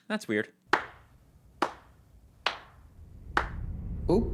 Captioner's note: slow clapping